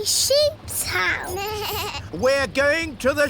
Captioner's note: suzy bleats